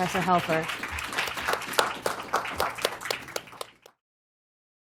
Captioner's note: applause